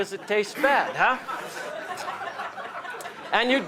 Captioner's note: laughter